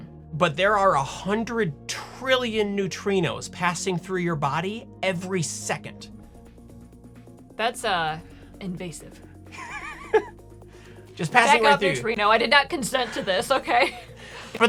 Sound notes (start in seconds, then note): 9.6 laughing